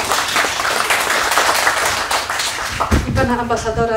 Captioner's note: applause